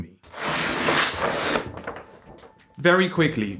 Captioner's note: tearing noise